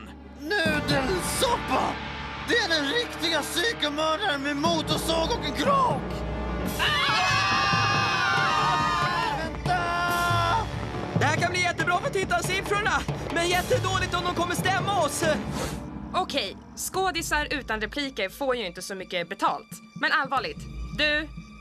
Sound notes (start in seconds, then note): 6.8 screaming